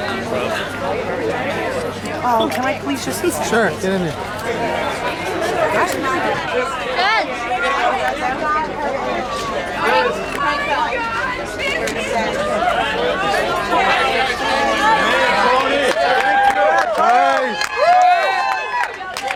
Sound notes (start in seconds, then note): 13.7 shouting getting louder; 16.8 cheering and clapping